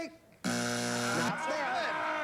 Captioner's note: buzzer